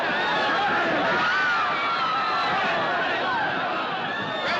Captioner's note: Gritos continuam